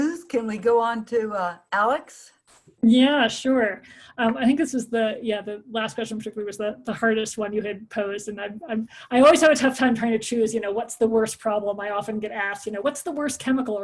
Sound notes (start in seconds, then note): none